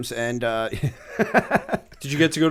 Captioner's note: laughter